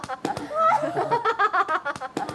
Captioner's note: laughing